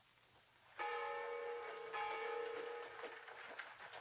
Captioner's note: bell tolls